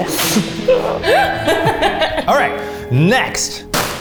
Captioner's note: all laughing